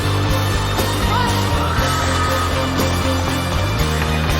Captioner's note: crowd screaming